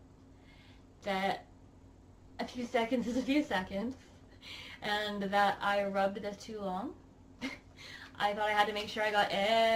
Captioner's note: giggles